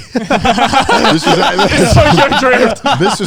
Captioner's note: everyone laughs